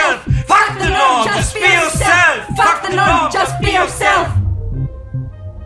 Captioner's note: shouting together